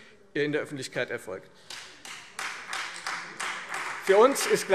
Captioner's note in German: Beifall Freie Demokraten